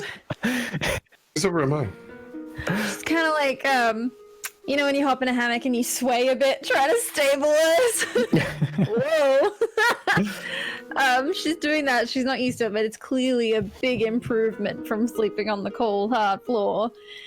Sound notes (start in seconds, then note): 0.4 laughs; 7.9 laughs